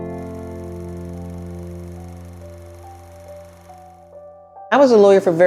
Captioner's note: film projector sound; soft music